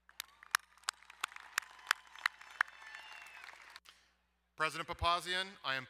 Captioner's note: crowd cheering and applauding